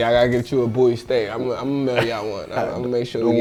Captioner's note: laughs